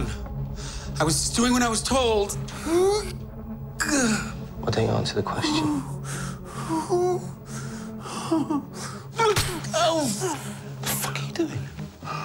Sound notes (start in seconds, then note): 2.5 yelps; 6.2 whimpers; 9.2 gasps